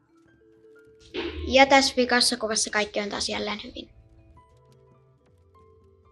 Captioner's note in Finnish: lapsen ääni